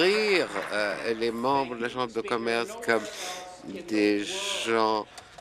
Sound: applause

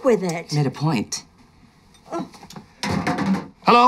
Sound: clatter

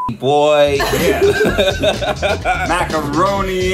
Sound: laughing

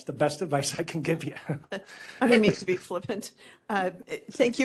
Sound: laughing

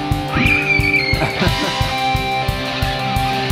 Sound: screaming

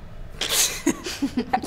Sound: laughs

